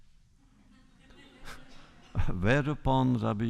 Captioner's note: laughter